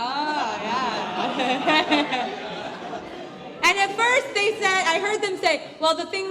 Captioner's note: laugh